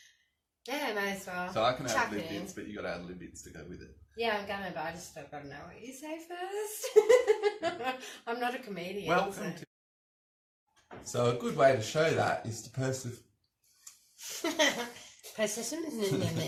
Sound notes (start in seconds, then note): 6.9 laughing; 14.3 giggles